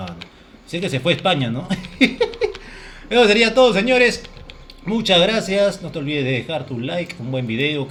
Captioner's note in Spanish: risas